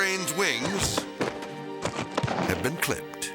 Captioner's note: thudding